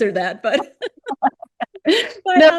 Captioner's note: laughter